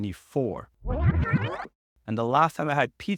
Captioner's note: audio warbling